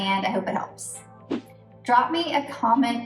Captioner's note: air whooshes